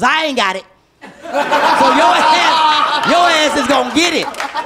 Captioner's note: laughter